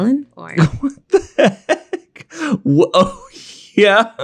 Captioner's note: laughs